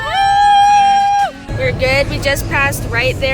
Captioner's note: cheers